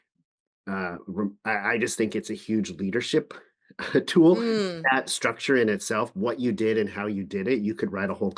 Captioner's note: chuckles